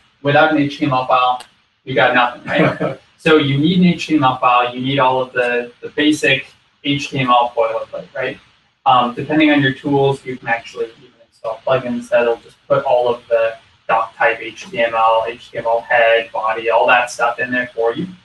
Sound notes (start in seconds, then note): 2.1 laugh